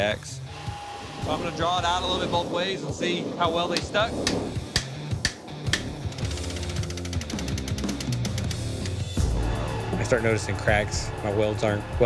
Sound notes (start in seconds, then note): 4.2 hammer pounding; 4.6 machinery ticking